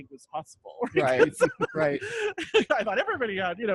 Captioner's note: laughing